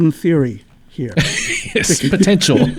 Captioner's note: laughing